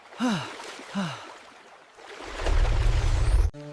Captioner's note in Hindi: गहरी सांस लेने की आवाज़